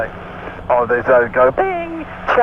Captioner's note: bing